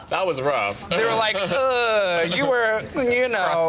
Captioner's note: snickers